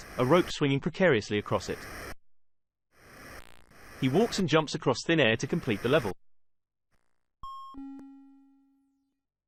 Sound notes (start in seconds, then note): 7.5 bing-bong sound effect